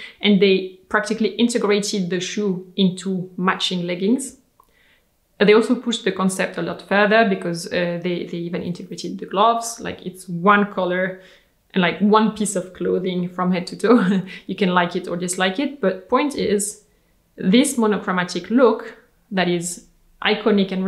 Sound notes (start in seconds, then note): 14.1 chuckles